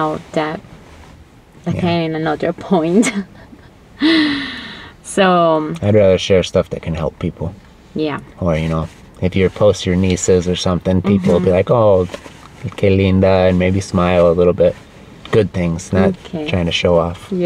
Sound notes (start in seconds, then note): 3.1 risas